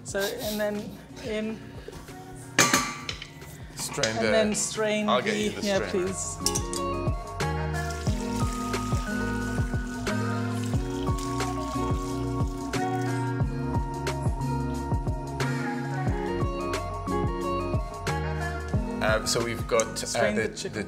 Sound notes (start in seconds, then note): 6.6 upbeat music; 7.6 water pouring; 14.4 upbeat music